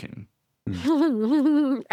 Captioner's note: giggles